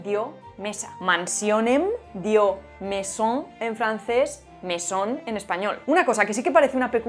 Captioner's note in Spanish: en francés; en español